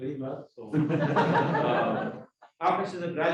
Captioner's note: crowd laughing